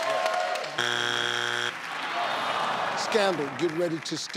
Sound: cheering; buzzing

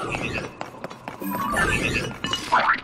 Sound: confused construct sounds; alert construct sounds; ribbit

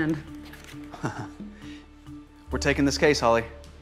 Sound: chuckles

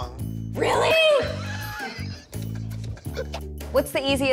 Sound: laughs

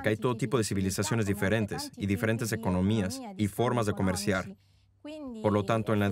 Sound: speaking in foreign language

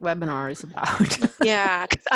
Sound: laughter

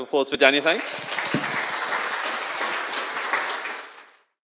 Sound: crowd applauds

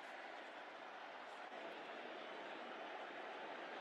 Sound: cheering

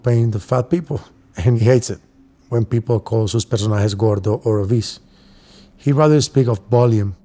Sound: speaking spanish

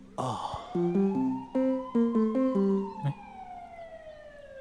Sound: ominous signal

